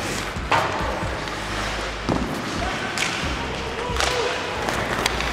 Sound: ice skates slicing, sticks banging

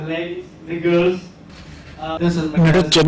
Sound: non-english speech

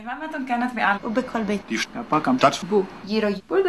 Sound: speaking various languages

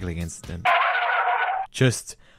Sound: cartoon skid

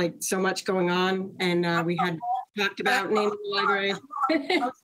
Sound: laughs

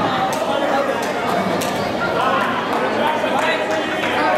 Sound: mild Laughter and Confusion From Audience

